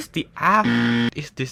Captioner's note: extremely loud incorrect buzzer